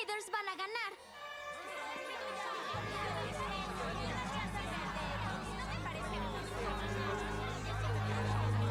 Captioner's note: arguing